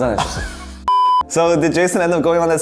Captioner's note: electronic bleep